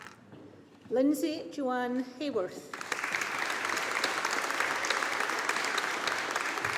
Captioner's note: audience applauding